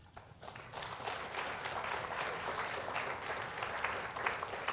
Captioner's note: applause